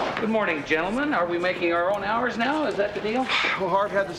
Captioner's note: none